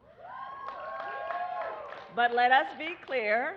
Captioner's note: applause